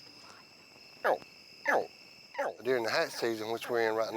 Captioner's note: alligator chirping